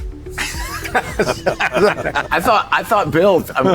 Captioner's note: laughing